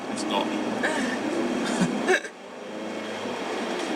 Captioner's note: laughing